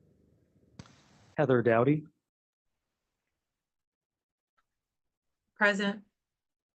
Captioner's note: A pause